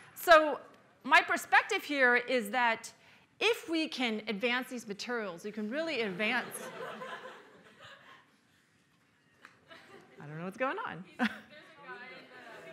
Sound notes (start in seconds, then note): 6.1 laughter